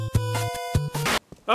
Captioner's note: TV buzzing